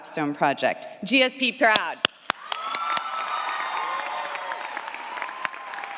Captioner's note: audience applauds & cheers